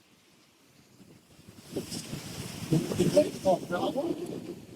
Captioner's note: wind